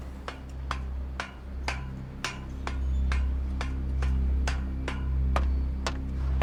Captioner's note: metal clanking; footsteps thudding